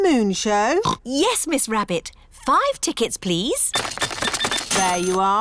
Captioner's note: oinks